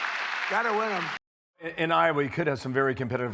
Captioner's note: applause